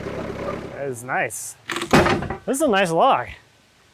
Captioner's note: slab banging